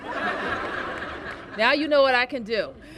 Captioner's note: laughter